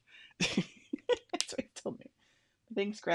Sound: laughs

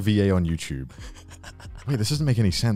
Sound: laughs

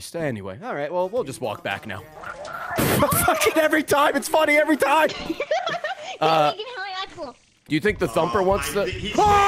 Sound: laughs

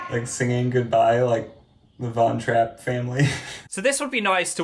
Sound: laughs

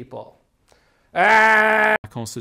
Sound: groaning!

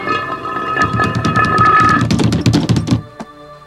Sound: pounding

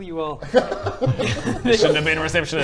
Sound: foolish giggles

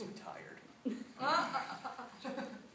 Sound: laughter

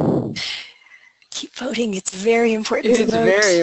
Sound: laughing

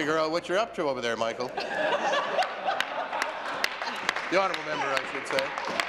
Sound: laughter

